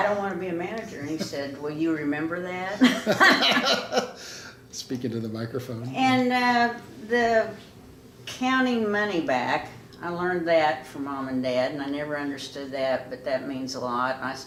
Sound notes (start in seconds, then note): 2.8 laughing